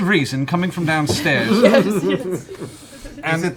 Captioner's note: laughter